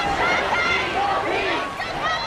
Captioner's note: crowd